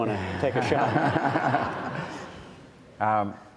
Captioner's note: audience laughs